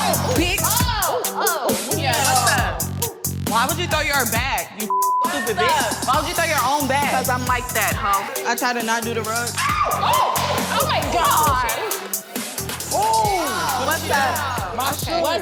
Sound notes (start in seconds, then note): 4.8 beep